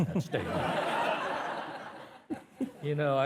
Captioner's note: participants laughing